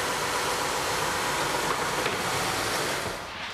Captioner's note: machine noise ends